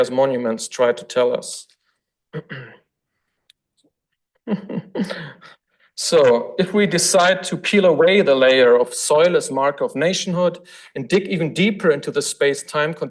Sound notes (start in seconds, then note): 2.3 throat clearing; 4.4 lecturer giggles